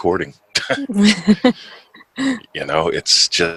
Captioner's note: both laughing